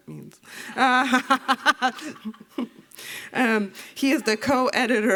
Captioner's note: laughter